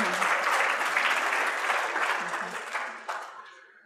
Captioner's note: applause